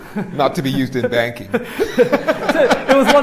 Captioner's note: laughter